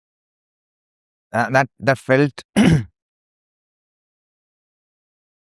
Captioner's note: clears throat